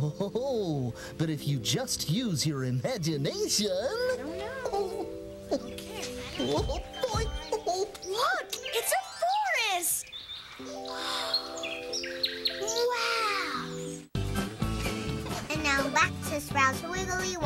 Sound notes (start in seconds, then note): 9.7 chirp chirp chirp